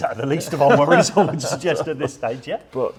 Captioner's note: laughing